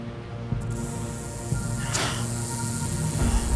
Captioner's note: rattling